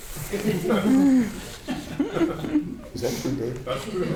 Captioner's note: audience laughing